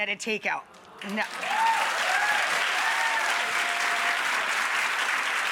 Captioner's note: cheering and clapping